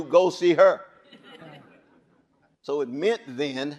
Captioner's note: audience chuckling